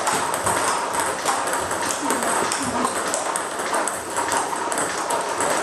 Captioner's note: ball ping pong hitting continues